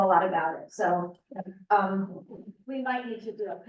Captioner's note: muffled voice